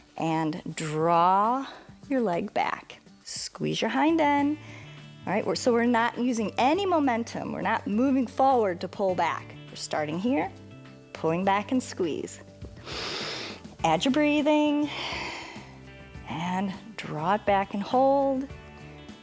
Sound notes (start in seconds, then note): 12.8 inhales; 14.8 exhales